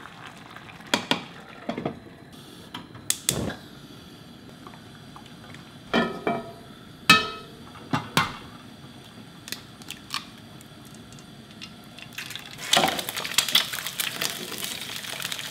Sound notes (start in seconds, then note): 7.1 pan clanking; 12.7 egg sizzling